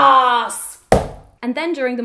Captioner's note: banging